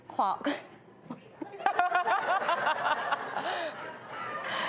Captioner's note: audience laughs